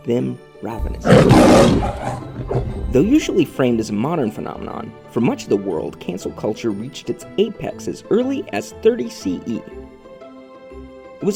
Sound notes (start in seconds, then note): 0.8 lion roars